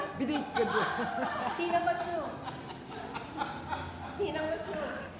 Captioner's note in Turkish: kahkaha